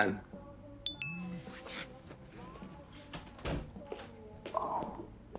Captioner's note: phone chiming